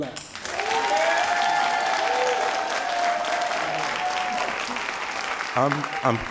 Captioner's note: all applauding and cheering